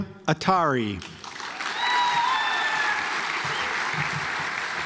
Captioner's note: audience applauds